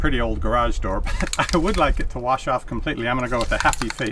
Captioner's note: chuckles